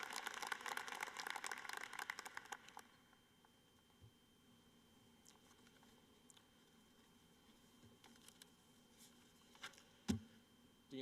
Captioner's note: cheering and applause